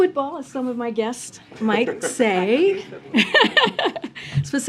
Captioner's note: laughter